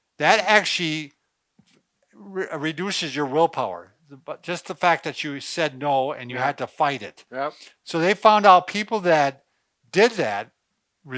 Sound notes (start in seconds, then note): none